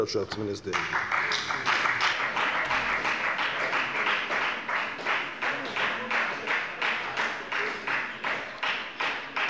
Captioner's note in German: Beifall bei der FDP